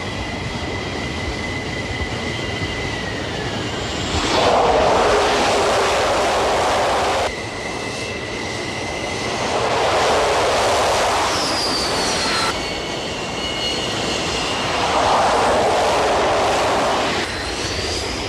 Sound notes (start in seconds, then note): 3.5 landing plane; 7.7 landing plane; 13.5 landing plane